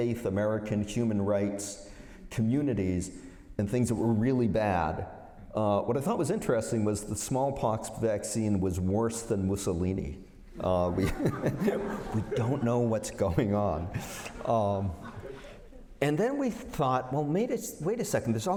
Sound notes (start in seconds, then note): 10.6 laughter